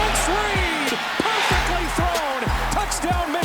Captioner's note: crowd cheers